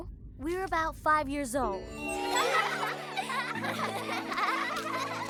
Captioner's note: all laughing